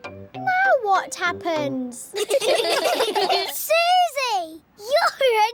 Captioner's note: all giggling